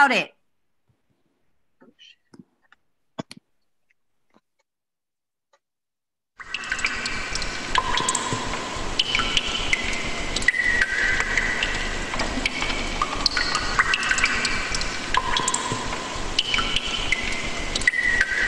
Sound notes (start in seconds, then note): 6.4 water trickling